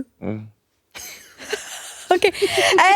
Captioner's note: all giggling